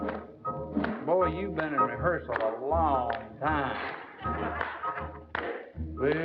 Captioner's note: laughter